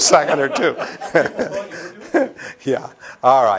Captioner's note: laughter